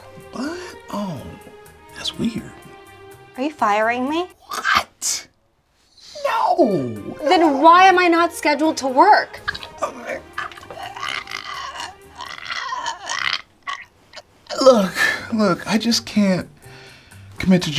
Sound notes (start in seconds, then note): 9.3 assistant imitates gagging